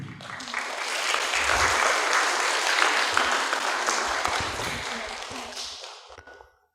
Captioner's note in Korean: 청중 박수